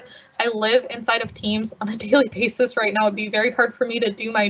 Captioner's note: laugh